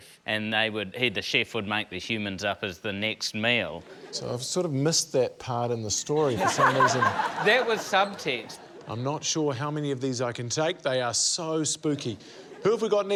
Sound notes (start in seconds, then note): 6.2 laughter